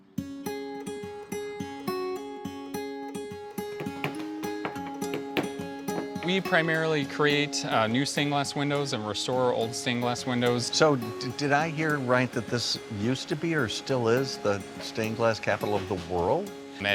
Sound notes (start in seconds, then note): 0.1 pleasant guitar music; 3.7 hammer tapping